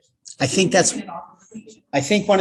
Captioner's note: audience member murmuring